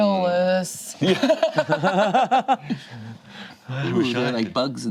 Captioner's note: group laughs